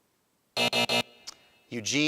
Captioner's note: alarm buzzes